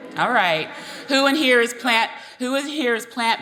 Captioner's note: audience cheering